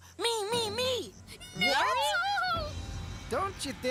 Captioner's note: hamsters Exclaiming